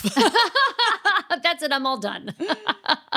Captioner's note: laughing